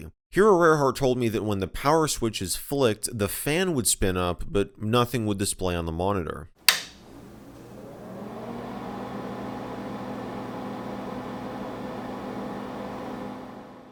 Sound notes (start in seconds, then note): 6.6 power switch flicked; 6.6 fan spinning up